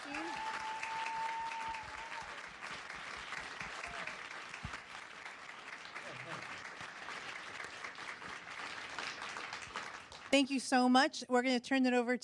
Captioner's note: applause